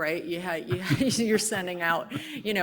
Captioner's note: team laughs